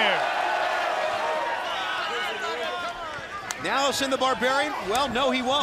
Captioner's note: crowd chatter